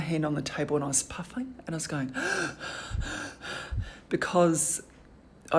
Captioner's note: gasping